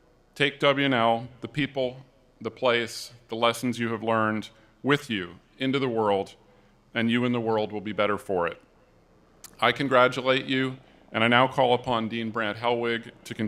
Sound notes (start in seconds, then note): none